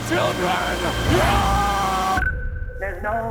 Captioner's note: screams